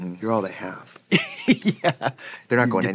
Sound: laughing

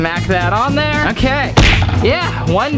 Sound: whap

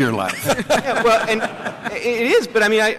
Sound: laughter

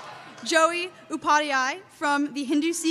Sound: cheers

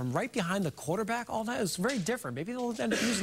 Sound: laughter

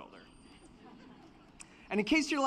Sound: laughter

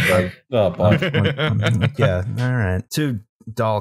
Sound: laughter

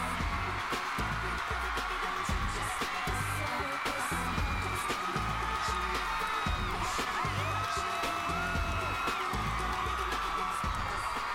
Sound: cheers and applause

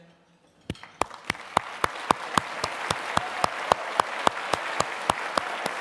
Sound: applause

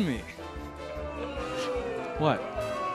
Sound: crowd booing

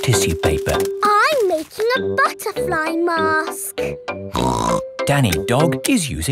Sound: snorts

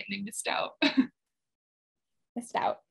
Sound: laughs

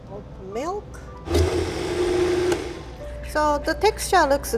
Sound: blender whirring

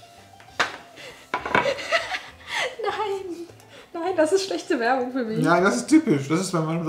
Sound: laughing

